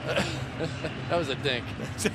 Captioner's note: chuckles